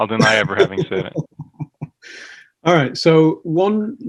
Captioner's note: laughs